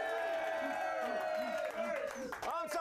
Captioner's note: audience cheering